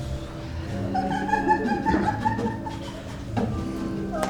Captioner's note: laughs